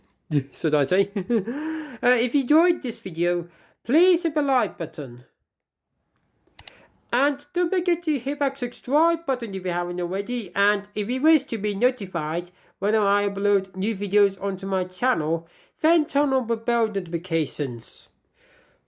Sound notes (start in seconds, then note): 6.1 click sound